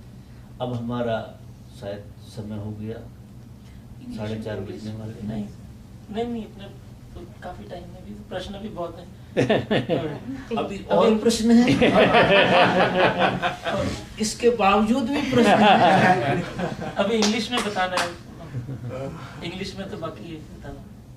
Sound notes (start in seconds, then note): 11.7 laughter in Audience; 15.2 laughter again